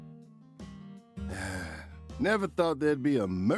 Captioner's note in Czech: malý povzdech